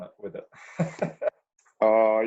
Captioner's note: chuckling